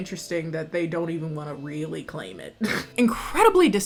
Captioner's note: snorts